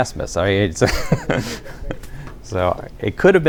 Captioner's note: laughter